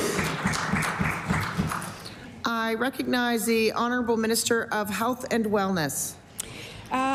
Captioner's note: applause